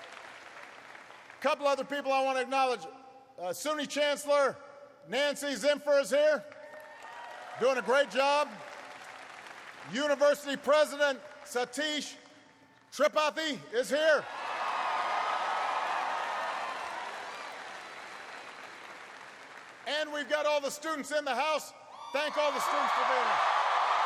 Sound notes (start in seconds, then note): 9.7 applause; 14.3 applause